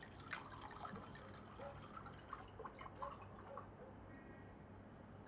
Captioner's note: liquid pouring